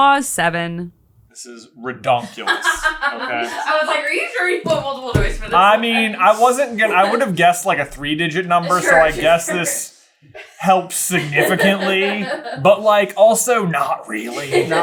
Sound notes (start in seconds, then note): 2.0 laughing